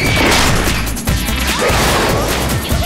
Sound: scream

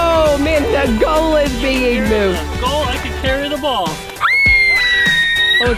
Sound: playful Screams

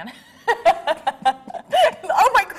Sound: both laughing

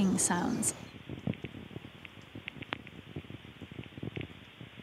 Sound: crackling

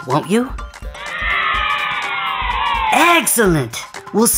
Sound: children cheering

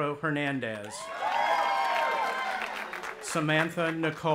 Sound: cheering

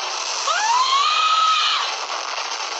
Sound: screams

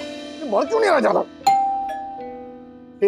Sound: doorbell rings

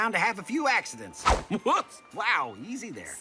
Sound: bat swings

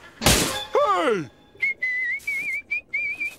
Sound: whistling

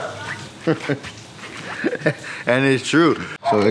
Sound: chuckles

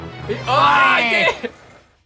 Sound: everyone screaming

